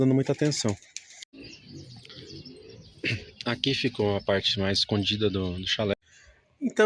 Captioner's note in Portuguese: limpando a garganta